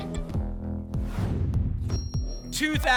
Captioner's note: whoosh